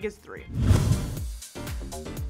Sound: whoosh; upbeat music

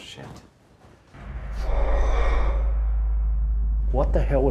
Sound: sound of rocks sliding and moving in distance

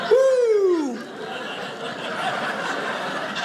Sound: audience laughing

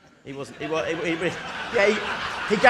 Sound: audience laughing

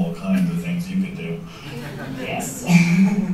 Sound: chuckles; laughter

